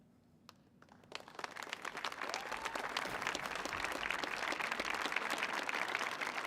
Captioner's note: audience applauding and cheering